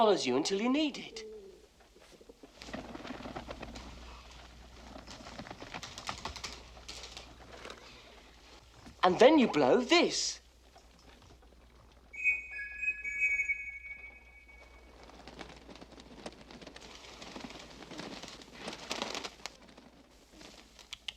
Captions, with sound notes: THE PIGEON FOLLOWS YOU UNTIL YOU NEED IT. AND THEN YOU BLOW THIS. [whistle chiming]